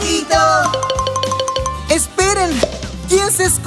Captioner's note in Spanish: Sonido de campana